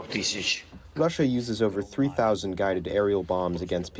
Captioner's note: through translator